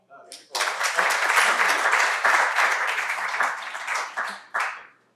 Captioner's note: applause